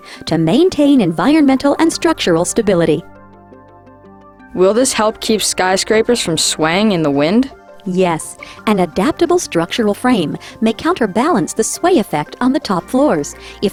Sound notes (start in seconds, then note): 4.7 voiceover; 8.0 voiceover